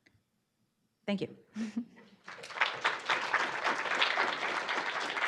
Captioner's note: audience clapping